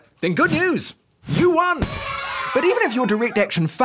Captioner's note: cheering